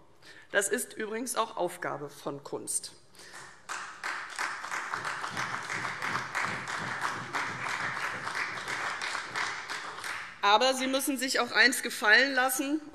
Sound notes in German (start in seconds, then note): 3.2 Beifall CDU und vereinzelt BÜNDNIS 90/DIE GRÜNEN